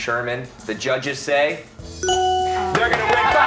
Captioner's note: cheers and applause